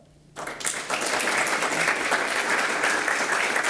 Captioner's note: applause